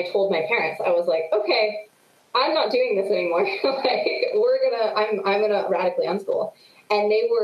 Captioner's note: laughs